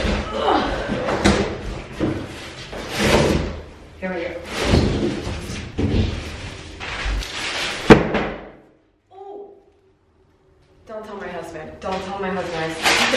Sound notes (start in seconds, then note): 0.2 grunts; 7.8 loud thud